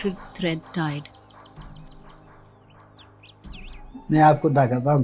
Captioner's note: birds chirping